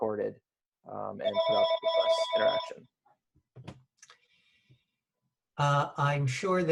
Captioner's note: phone ringing drowns out speaker